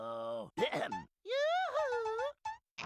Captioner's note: clears throat